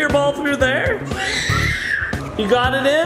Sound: screaming

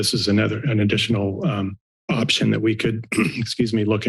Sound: clears throat

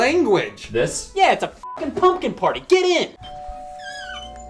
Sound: beep; doorbell ringing

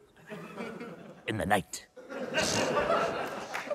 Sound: laughter

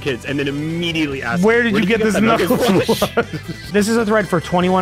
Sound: laughs

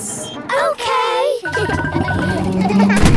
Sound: kids laughing

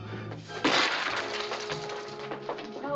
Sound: plate Shatters

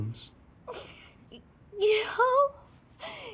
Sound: sniffles

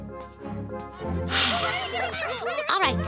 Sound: multiple loud voices

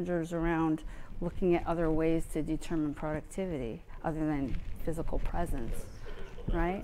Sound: laughing

